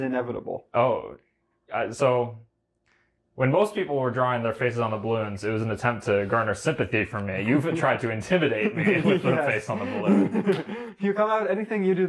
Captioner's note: laughs